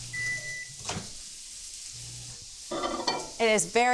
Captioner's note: microwave beeps